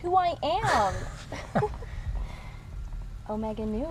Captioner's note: laughs